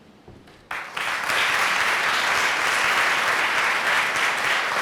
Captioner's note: applause